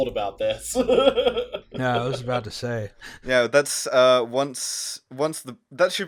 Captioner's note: laughter